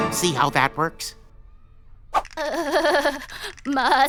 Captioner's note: shuddering